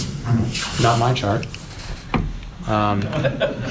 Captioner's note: laughter